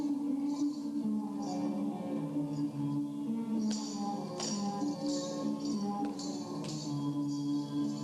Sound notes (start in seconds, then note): 3.8 feet tapping